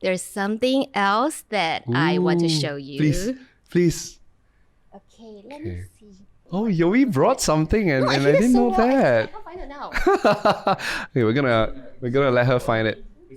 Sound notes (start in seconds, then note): 9.9 laughs